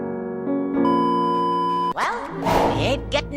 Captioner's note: the last regular beep ever